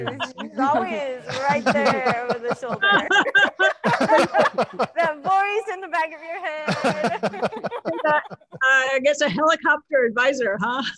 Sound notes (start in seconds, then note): 2.7 panelists laughing